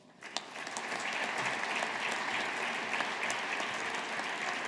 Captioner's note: audience applauding